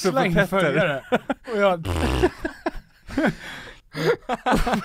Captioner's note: fart noise